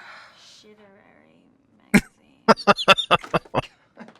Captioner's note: laughing